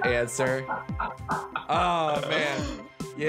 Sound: laughing

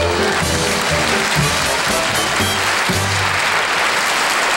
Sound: orchestra playing; audience applauding

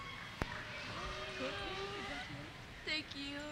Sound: cheers; voiceover

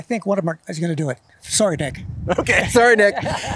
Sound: both Laughing

